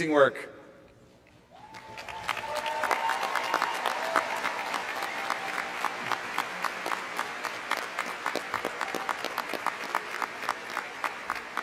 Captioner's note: applause